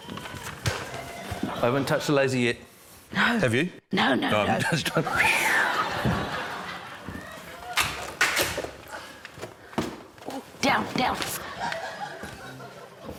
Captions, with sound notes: - I haven't touched a laser yet. - No. - Have you? - No, no, no. - (LAUGHS) Oh, I'm just trying― (CRACK!) - Ooh. Down. Down. (LAUGHTER)